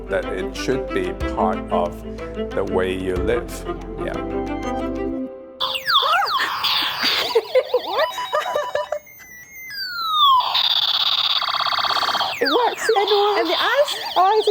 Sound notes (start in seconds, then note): 5.8 toy siren; 7.8 laughter; 10.7 toy siren continues